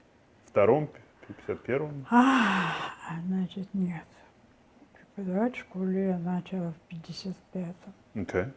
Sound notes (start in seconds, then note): 2.1 sighing